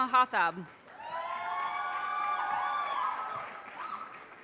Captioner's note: audience cheers and applause